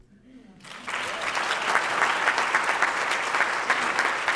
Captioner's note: audience applauding